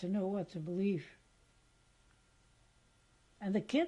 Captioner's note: pauses for 3 seconds